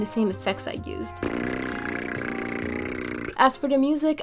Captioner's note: lip buzzing sound